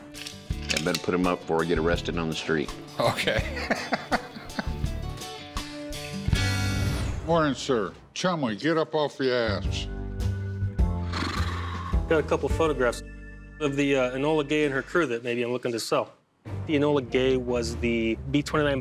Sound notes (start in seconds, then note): 3.0 laughs; 11.0 Chumlee exhales